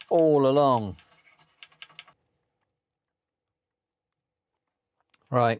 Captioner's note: keyboard Clattering